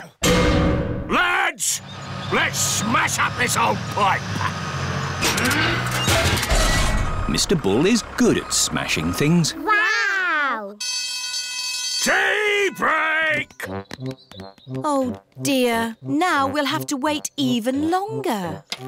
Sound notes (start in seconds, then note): 10.8 alarm ringing